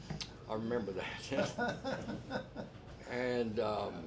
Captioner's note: laughs